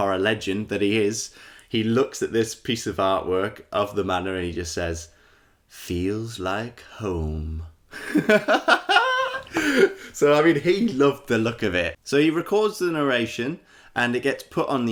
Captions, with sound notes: legend that he is, he looks at this piece of artwork of the Manor and he says "feels like home". [Laughter] So he loved the look of it. So he records the narration and it gets put on